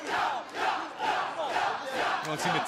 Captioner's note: fans chanting